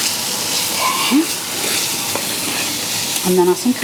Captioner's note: sizzle